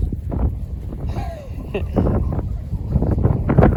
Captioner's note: laughs